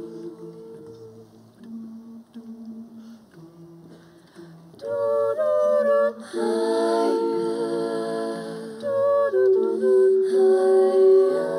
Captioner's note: humming